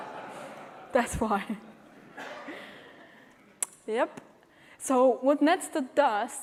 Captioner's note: laughter